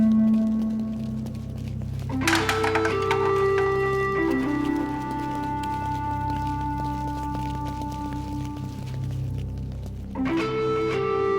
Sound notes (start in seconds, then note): 2.2 bat hitting can